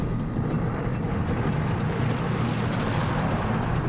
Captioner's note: engine revving